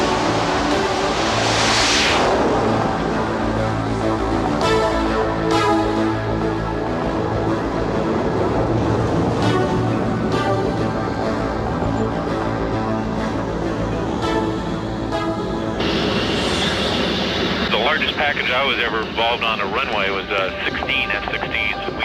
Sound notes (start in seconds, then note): 0.1 suspenseful music continues; 1.8 plane noise; 9.9 suspenseful music continues